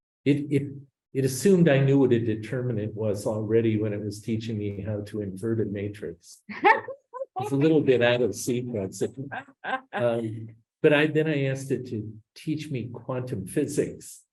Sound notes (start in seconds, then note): 7.3 laughs